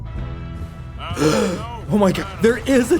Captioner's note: gasp